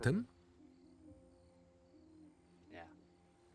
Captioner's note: owl hooting; crickets chirping